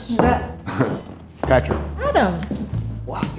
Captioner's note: chuckling